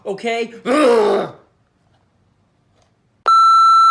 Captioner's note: gimiendo